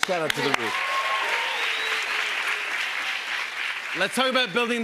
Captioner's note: cheers and applause